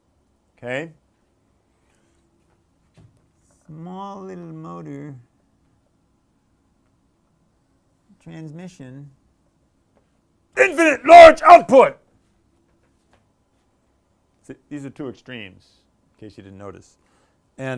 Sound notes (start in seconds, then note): 9.1 shouting